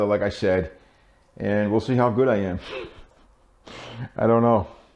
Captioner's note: laughing